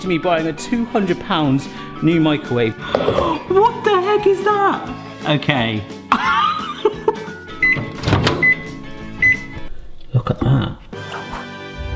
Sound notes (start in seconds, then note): 6.4 chuckles; 8.1 bright music